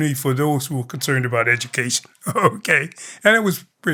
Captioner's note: laughter